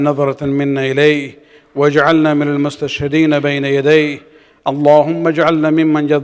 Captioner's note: arabic